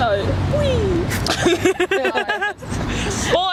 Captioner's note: laugh